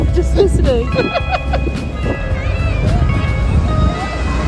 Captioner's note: laughs